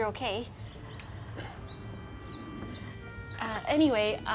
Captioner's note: birds chirping